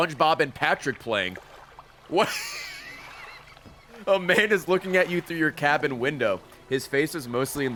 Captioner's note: laughs